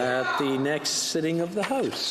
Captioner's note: speaking French